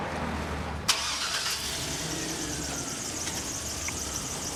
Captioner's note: engine starts